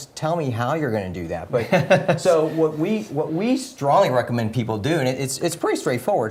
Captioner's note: laugh